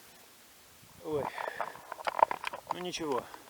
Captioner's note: sigh